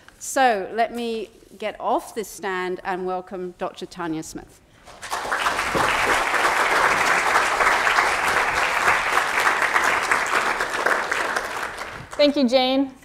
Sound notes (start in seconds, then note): 4.8 applause